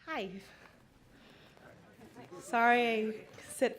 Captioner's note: audience saying hi